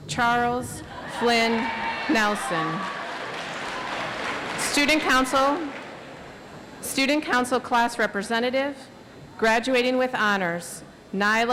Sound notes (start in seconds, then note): 3.0 audience applauds